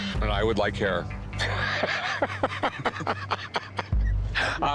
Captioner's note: laughs